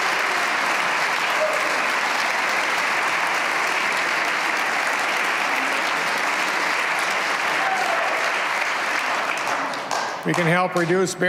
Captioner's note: cheers and applause